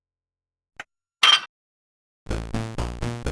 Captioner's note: clank